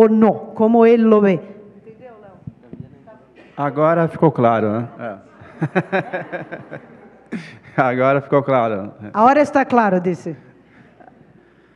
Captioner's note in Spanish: ponente habla en portugués